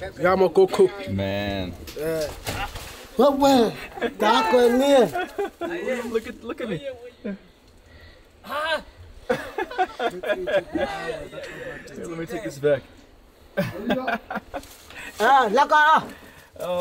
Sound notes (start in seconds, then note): 0.1 boy speaking foreign language; 3.0 speaking foreign language; 9.2 laughing; 13.6 laughing